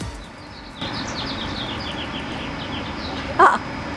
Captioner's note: birds chirping